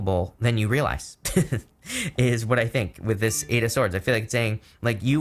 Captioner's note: chuckles